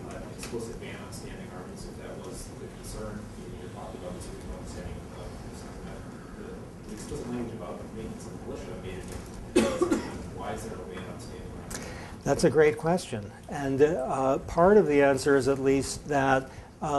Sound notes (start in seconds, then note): 9.5 coughing